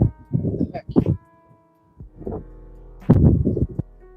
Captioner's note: wind blowing